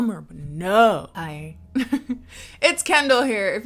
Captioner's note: chuckles